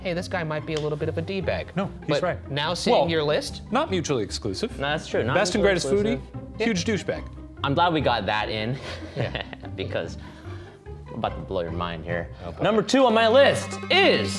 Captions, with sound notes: hey, this guy might be a little bit of a d-bag. - No, he's right. - But now seeing your list. - Not mutually exclusive. - No, that's true. - Best and greatest foodie. Huge douche bag. - I'm glad we got that in. (chuckling) Because I'm about to blow your mind here. Number two on my list is.